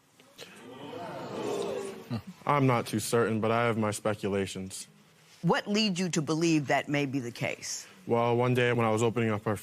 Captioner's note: spectators gasp